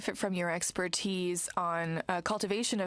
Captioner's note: speaking french